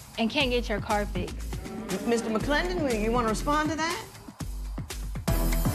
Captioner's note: spectators murmur